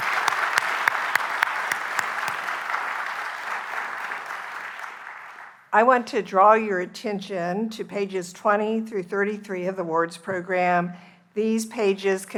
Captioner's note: applause